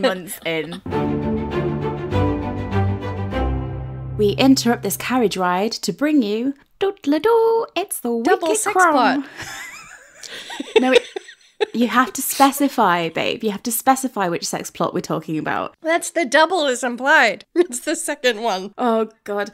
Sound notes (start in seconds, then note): 0.7 upbeat music; 9.0 laughing